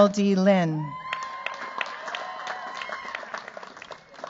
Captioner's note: cheers, applause